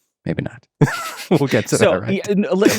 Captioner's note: laughs